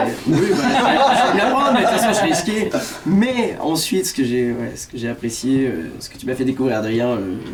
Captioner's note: laughs